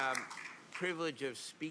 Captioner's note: applause